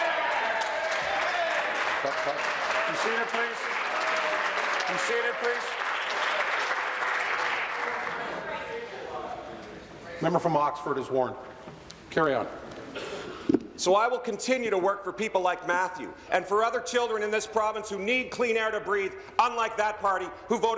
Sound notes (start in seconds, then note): 4.7 applause